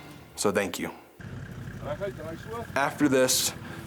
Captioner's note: engine rumbling; faintly speaking